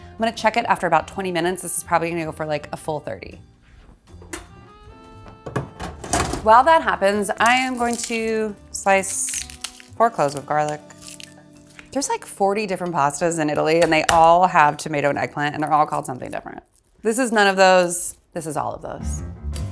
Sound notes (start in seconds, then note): 4.2 oven clicks; 5.4 oven tray thuds; 18.9 funky music